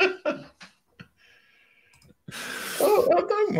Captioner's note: laughter